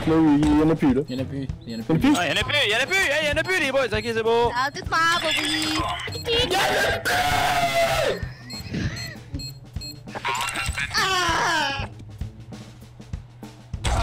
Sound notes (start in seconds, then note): 10.9 little cry of sadness